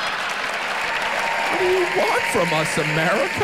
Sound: audience laughs; audience applauds

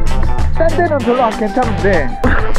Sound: laughing

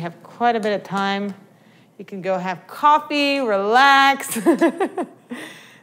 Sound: laughts

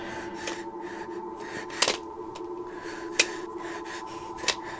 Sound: panicked breathing

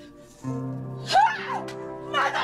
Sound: exclaims in anger

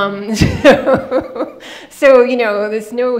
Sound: laughing

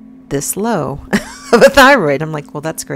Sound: woman laughs

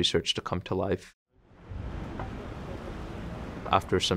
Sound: city ambience

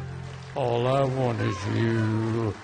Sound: audience applauding

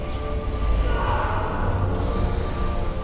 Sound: flashback screams

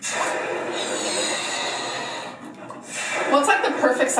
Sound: air hissing

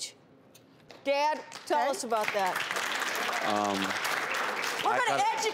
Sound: audience applauds

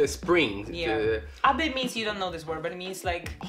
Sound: foreign language

